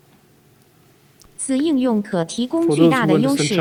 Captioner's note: foreign language